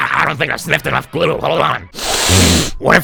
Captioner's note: sniff